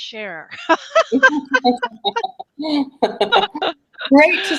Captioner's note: laughter